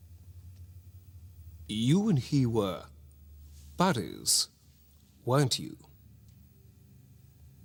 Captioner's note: posh accent